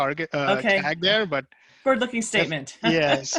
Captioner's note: laugh